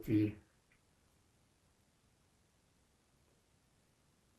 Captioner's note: pauses 6 seconds